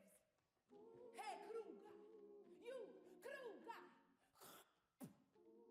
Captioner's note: spits